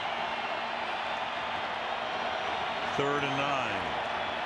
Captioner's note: crowd cheering